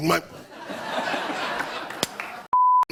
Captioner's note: laughter